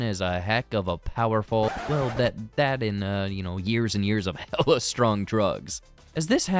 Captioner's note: scratch